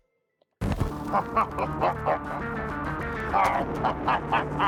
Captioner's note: laughing